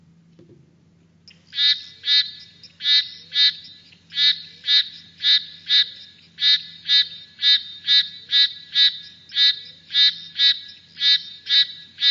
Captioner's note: sounds of frogs calling